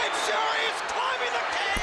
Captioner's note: crowd cheering